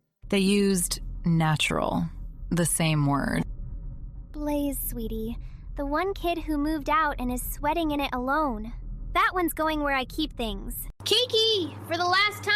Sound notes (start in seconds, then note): 4.5 quietly